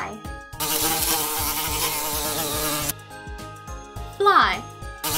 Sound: flies buzzing; flies buzzing

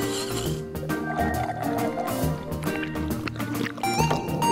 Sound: slurping

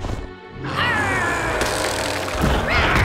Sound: growling

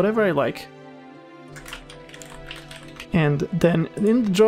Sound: frantic typing noises

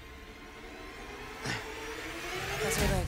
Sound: suspenseful music; Solomon grunts

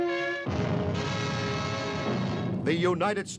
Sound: theme music; furnace blast

